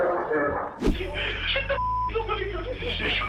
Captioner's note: beep